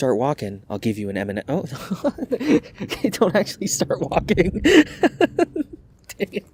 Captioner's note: laughter